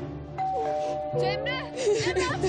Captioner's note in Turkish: Kapı zili sesi